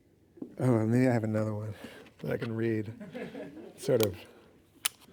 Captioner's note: audience laughing